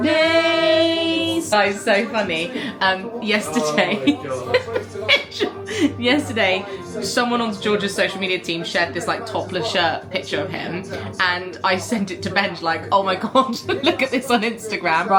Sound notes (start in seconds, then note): 3.6 laughs